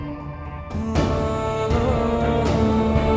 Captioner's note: emotional vocalising